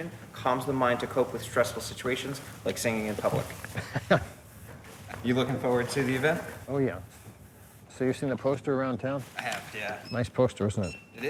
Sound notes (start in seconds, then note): 3.7 chuckles